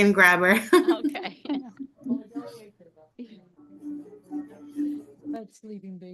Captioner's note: laughs